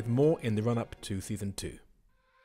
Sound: voiceover

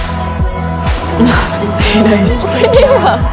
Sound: chuckles

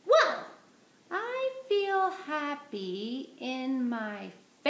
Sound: none

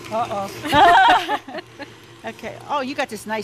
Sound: mixer whirs; both laugh

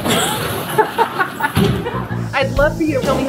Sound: laughing

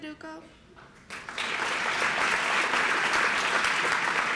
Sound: applause

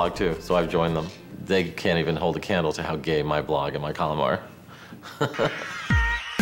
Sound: laughs

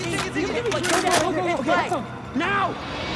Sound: clicking of cassette tape

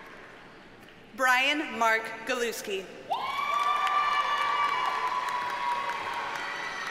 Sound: audience cheers and applauds

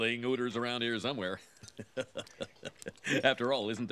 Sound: laughing

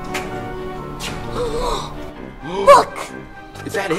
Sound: assistant gasps

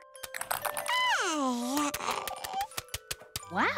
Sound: babbling

